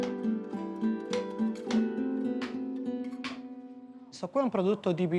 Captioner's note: speaking Italian